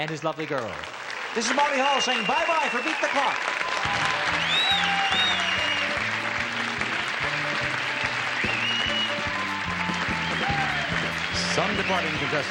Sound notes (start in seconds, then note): 5.8 audience claps and cheers; 7.7 energetic music